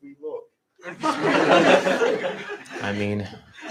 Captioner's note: laughter